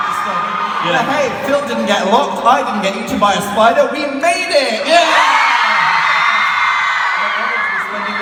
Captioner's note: screams